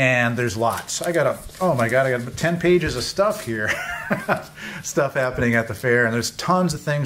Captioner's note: laughs